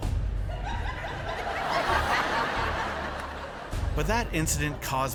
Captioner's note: laughter